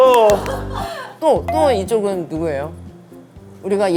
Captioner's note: sigh